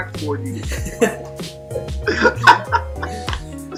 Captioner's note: laughter